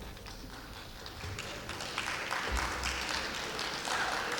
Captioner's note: clapping